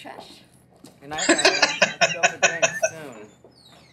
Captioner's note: laughing